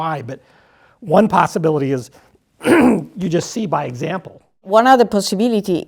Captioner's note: cough